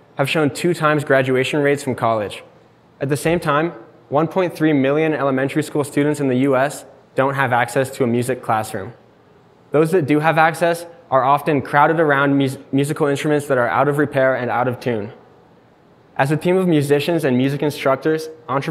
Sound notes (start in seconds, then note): none